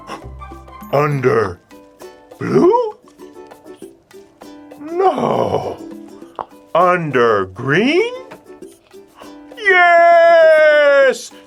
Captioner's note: monkey noises